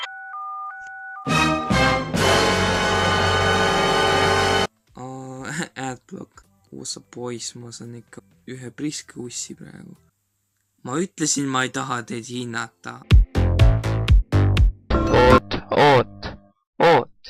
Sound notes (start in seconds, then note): 0.0 DTMF tones; 1.3 DUN DUN DUNN sound effect plays